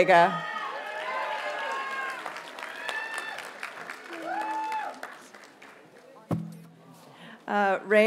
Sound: audience cheers and applauds

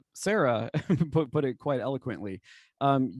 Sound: laughter

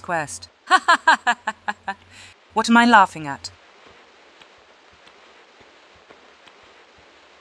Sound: insane laught

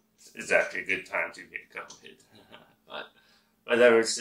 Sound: laughs

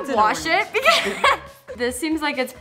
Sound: laughs

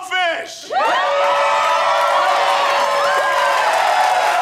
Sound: crowd cheering

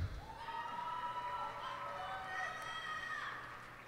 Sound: cheers and applause

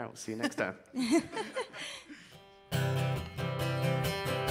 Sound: laughing; guitar strumming

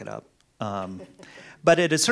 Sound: chuckles quietly

